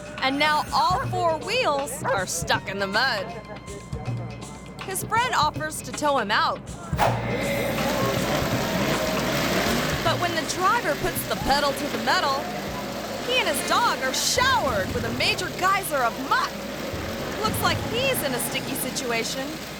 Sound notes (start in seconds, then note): 7.3 mud splattering; 7.3 truck revving